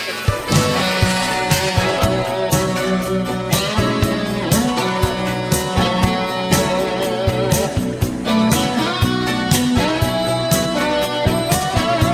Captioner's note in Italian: Applauso